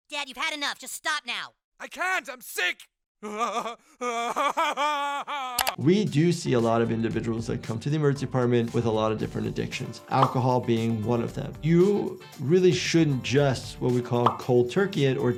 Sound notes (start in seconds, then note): 3.2 cries